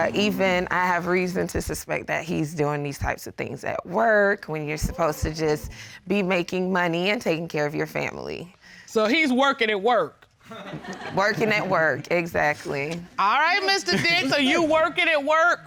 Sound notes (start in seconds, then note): 10.4 laughter